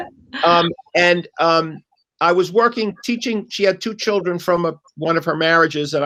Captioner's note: laughter